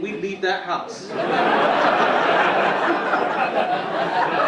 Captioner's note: audience laughing